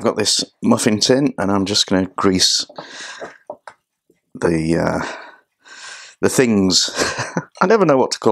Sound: laughs

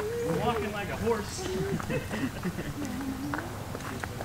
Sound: laughing

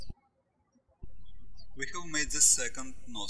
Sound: birds chirping

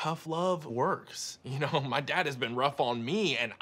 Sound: chuckling

